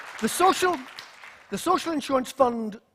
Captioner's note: applause